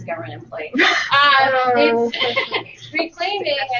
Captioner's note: laughter